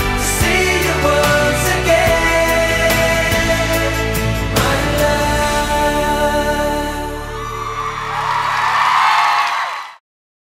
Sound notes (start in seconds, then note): 7.2 crowd cheering; 7.4 crowd clapping